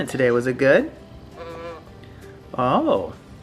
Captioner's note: toy moos like a cow